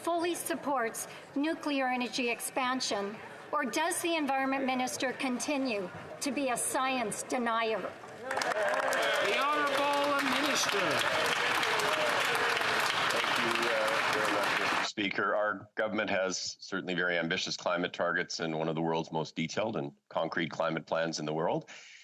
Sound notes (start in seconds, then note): 13.9 applause